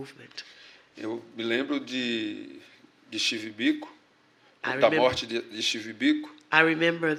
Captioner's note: speaking portuguese